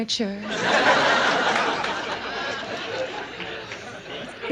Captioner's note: audience laughs